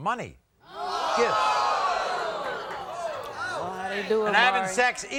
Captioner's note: audience oohs